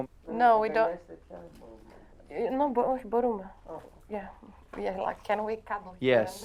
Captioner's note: speaking in a foreign language